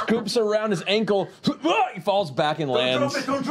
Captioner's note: yelps